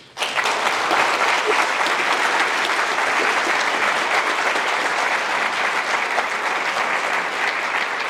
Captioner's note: applause